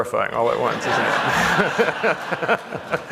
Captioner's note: laughter